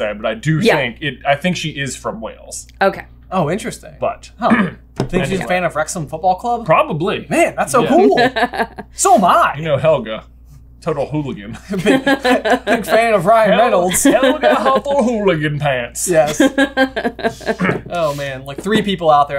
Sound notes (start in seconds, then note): 11.6 laughs